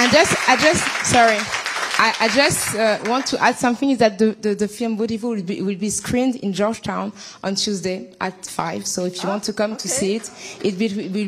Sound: applause

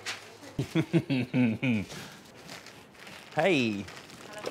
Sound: laughs

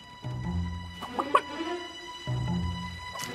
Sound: chicken cluck

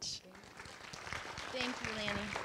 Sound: audience clapping

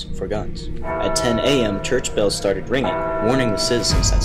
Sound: bell ringing

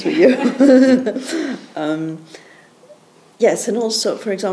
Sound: all chuckle

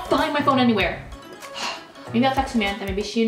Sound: sighs

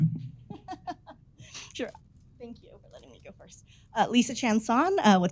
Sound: laughs

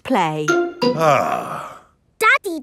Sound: sighs

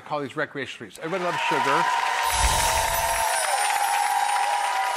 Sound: audience cheering

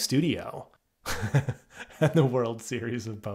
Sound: laughs

